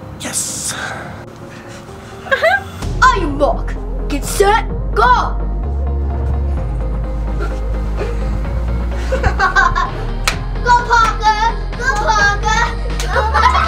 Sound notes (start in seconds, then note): 2.2 fake laughs; 5.9 dance music; 8.9 laughs